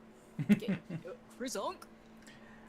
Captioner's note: chuckles